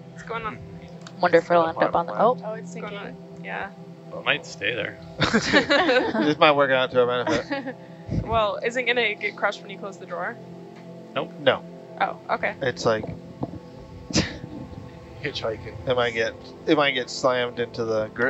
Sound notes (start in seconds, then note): 5.2 all laughing